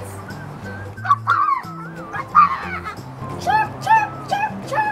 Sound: mimicking bird sounds

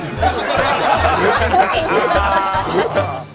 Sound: laughter

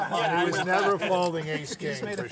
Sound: laughter

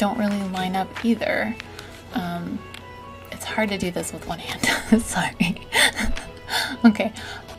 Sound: laughs

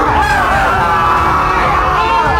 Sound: screams

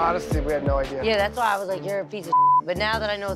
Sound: beep

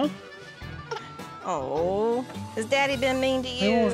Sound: cries

